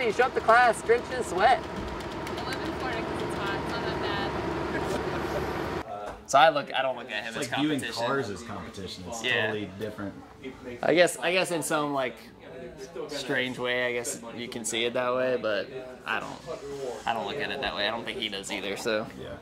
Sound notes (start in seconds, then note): 4.8 laughing